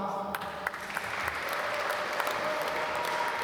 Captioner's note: applause